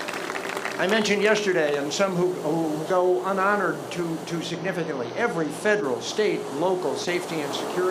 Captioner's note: applause